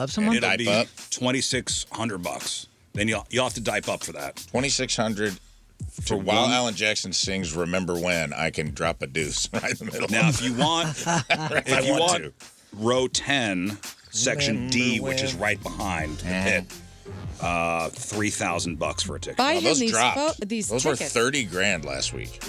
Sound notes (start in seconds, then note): 11.0 laughing